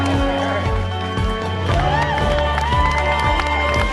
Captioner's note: cheering and applause